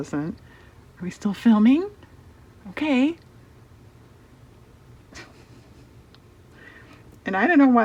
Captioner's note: laughs